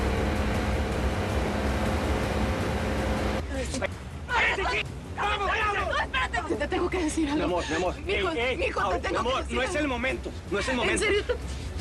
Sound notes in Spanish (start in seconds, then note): 0.0 Motor de la lancha; 4.8 Hablan al unísono